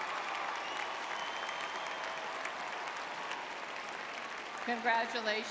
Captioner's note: audience cheering; applause